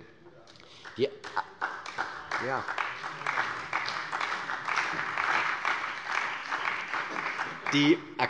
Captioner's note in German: Beifall bei der CDU